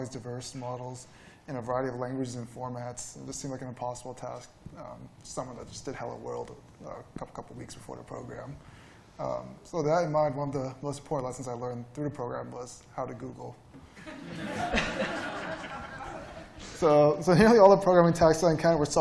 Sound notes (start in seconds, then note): 13.9 laughter